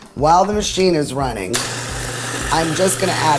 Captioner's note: food processor grinding